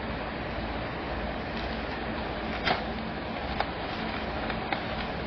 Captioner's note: tape tape